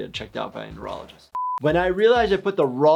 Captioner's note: high pitch beep